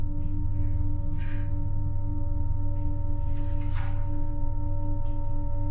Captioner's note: Kenza breathing heavily